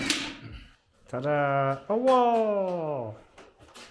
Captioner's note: shouts